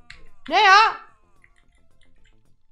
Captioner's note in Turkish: yüksek sesle